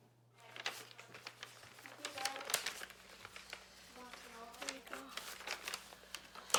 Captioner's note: sound of wrapping gift